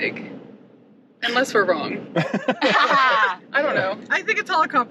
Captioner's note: laughing